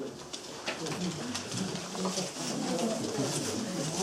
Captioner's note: group chattering